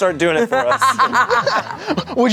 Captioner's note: everyone laughs